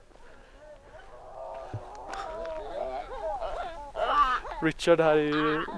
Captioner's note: monkey noise